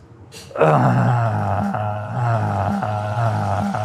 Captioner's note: groans